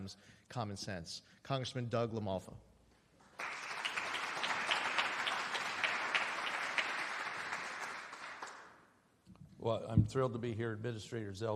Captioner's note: applause